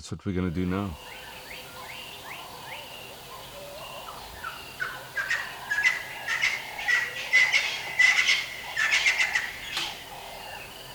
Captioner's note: birds chirping